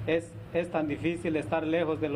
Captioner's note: speaking spanish